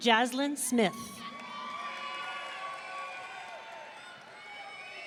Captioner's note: audience cheering